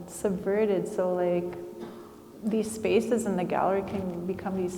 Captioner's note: attendee coughing